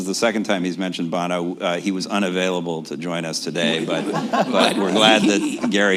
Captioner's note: laughter